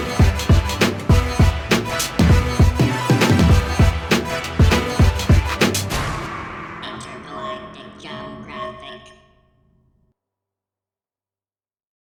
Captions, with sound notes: INTERGALACTICJUMBGRAPHIC [robotic voice]